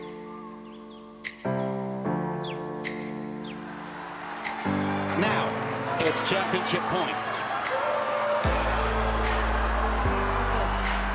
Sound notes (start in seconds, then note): 4.1 cheering; 8.8 cheering